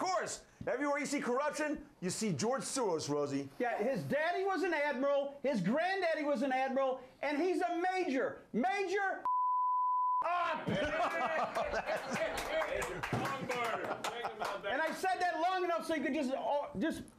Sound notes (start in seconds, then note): 10.8 applause